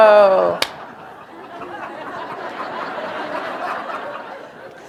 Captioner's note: laughter